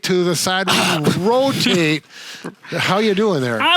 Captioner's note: groaning